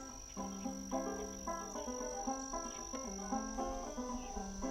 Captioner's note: crickets chirping